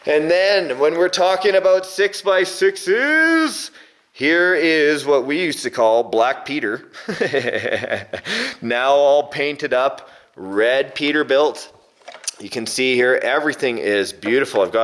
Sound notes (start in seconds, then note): 6.9 laughing